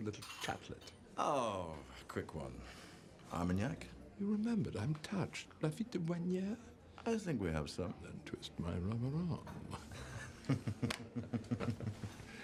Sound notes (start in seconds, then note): 6.1 guy speaking in foreign language; 9.7 chuckles